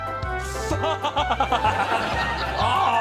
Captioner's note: laughing